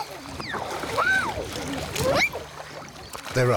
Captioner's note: speaking in a foreign language; children squealing